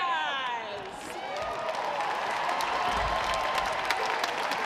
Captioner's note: audience cheers